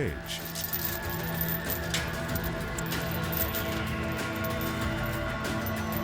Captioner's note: suspenseful music; chains clanking